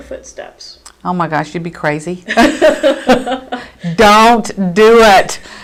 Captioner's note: laughter